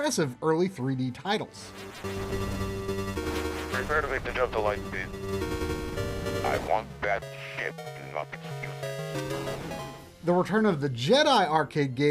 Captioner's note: The Empire Strikes Back Arcade Audio